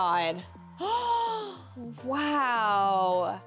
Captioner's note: gasps